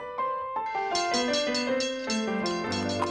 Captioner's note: piano music; bell ringing; horse hooves clopping